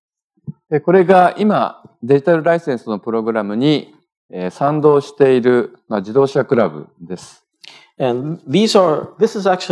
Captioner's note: speaking japanese